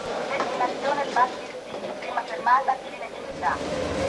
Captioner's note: automated announcment